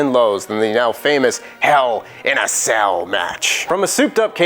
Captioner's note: Vince McMahon voice